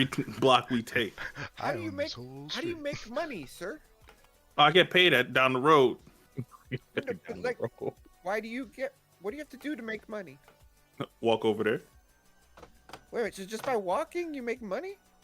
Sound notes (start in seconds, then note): 6.3 chuckles